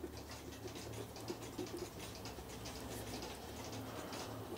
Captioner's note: rhythmic clicking in the background